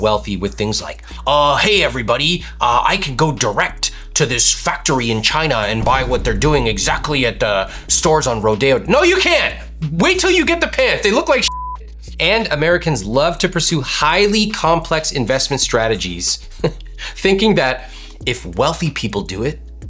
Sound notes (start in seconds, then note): 11.4 beep